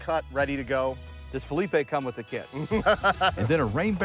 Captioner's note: laughing